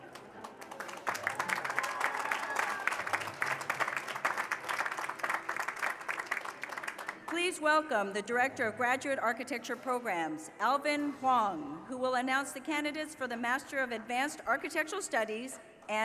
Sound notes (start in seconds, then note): 4.3 cheers and applause